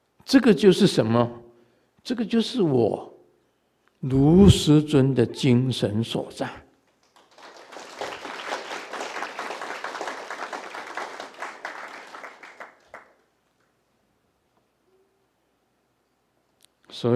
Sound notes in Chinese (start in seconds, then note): 7.0 眾鼓掌